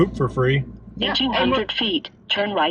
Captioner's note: automated Voice